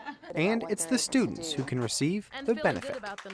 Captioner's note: laughing